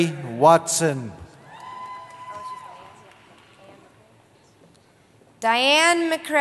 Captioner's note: cheering